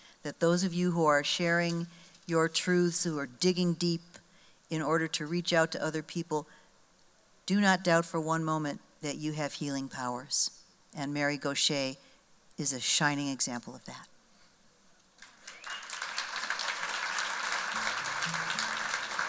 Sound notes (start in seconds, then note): 15.2 applause